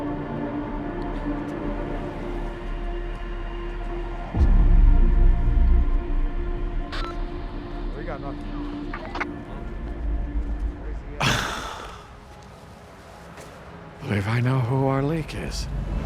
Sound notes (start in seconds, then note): 7.0 radio squeaks; 11.2 Chuck sighs